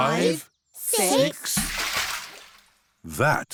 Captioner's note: splash